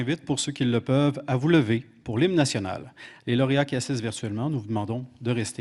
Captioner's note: speaking French